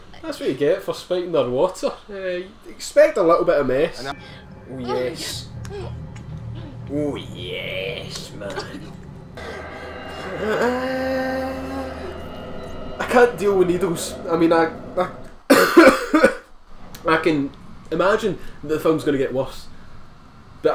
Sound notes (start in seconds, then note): 15.4 just clearing the throat, don't threat! It's not symptoms of anything; 15.4 cough